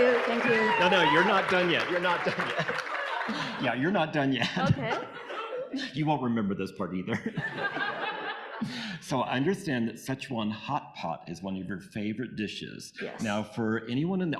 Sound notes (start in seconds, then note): 0.0 audience applauding; 0.0 audience cheering; 7.1 audience laughing